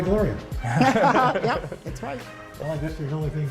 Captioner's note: laughter